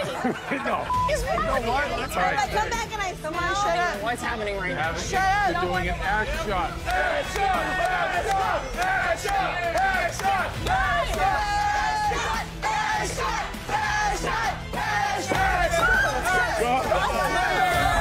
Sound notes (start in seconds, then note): 0.8 beep; 6.8 crowd